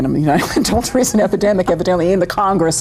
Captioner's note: laughing